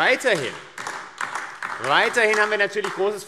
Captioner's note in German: Beifall AfD